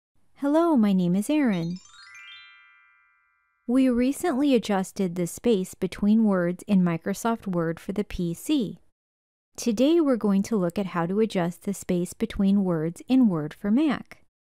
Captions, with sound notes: Hello, my name is Erin. [Chime sound] We recently adjusted the space between words in Microsoft Word for the PC. Today, we’re going to look at how to adjust the space between words in Word for Mac.